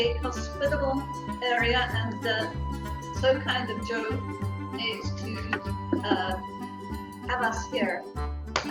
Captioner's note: clapping